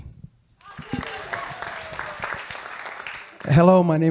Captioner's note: audience clapping